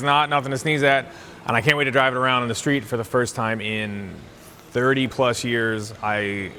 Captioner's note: none